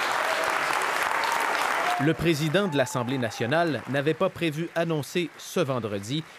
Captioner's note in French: applaudissements